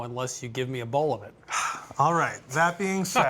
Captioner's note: sighs